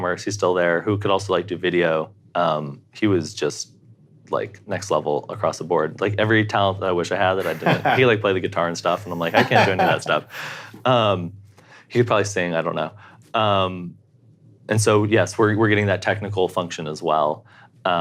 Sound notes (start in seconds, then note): 9.0 laughs